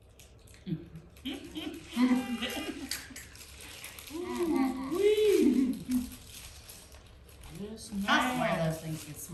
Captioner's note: laughter